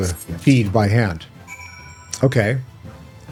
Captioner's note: bell rings